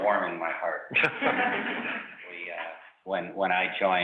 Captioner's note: panelists laughs